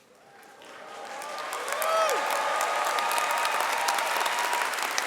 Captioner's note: audience cheering and clapping